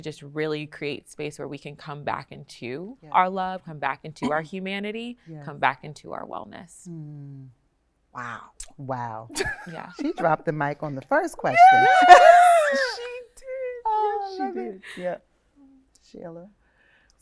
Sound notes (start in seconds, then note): 11.5 laughing